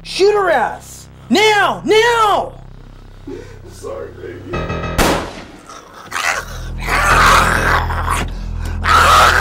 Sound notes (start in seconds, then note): 4.8 gun fires; 5.6 zombie growls